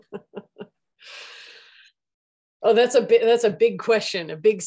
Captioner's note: laughing